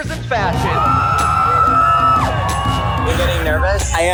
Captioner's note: crowd cheering